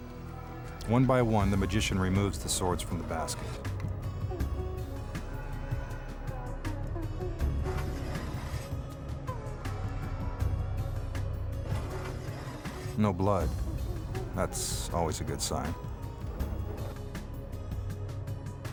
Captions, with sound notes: One by one, the magician removes the swords from the basket. (dramatic music continues) (sword scrapping) (sword scrapping) No blood; that's always a good sign.